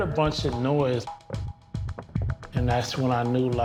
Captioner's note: thudding